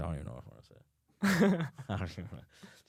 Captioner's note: laughs